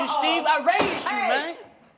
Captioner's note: gavel bangs